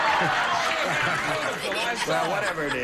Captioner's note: laughter